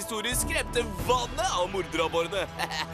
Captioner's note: chuckles